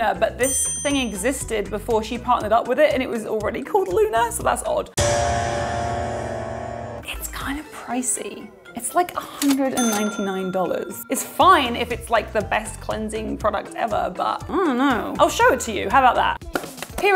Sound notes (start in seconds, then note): 5.0 menacing music; 9.8 dinging